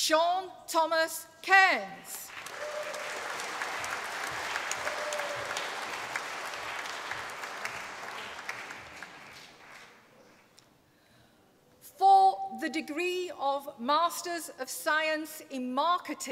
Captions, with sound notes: and today in those magnificent surroundings we celebrate your achievements. Well done. (APPLAUSE)